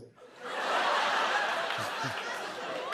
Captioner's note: laughter